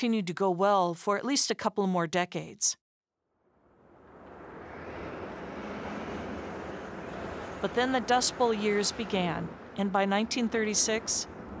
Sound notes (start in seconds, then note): 6.9 wind whipping